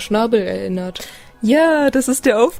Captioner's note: excited inhale